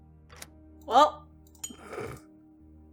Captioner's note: snorts